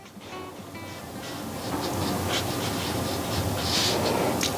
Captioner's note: marker scratching